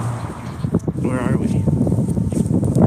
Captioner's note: wind rumbles